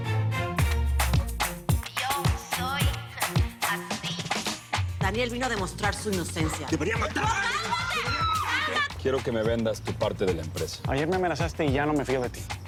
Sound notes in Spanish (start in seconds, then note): 7.7 Gritos y exclamaciones